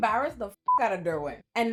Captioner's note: beep